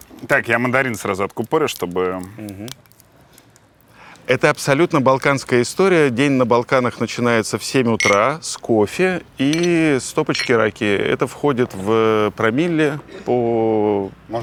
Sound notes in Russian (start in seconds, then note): 8.0 Звон стекла